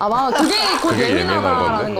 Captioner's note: dying of laughter